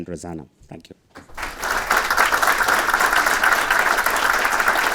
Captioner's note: audience clapping